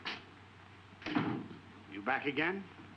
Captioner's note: door latching